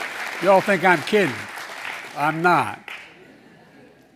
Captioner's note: laughter and applause; laughter